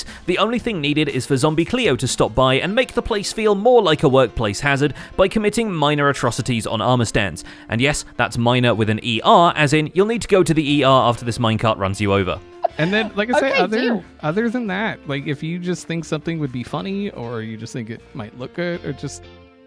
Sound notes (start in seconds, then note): 12.5 laughing